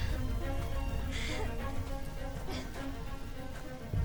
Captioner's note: crying